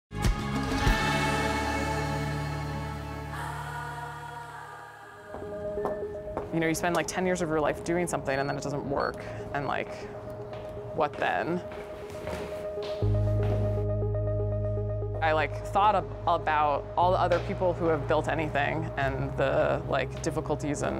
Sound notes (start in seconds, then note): 0.1 soft music; 5.3 loud footsteps; 12.7 soft music